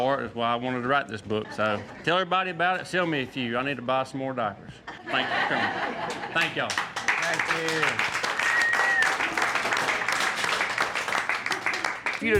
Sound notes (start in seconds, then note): 4.8 laughter; 6.1 applause